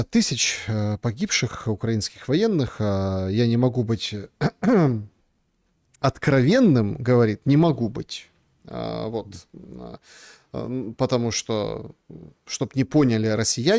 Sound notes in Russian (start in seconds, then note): 4.4 откашливается